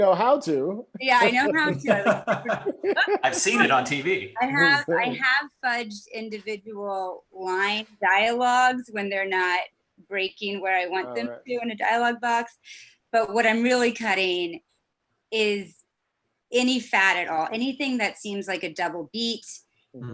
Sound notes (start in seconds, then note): 1.2 laughs